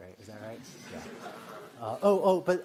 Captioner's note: laughter